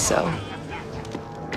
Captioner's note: men laughing